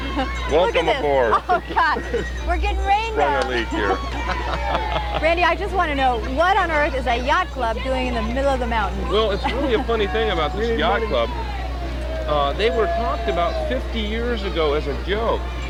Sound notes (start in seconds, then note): 3.6 chuckling